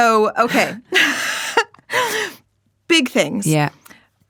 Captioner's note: laughing